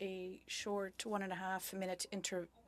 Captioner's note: speaking French